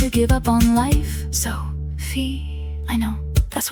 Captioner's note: female voice 1